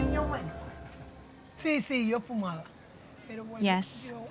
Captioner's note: speaking Spanish